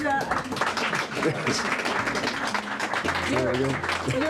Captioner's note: crowd applauding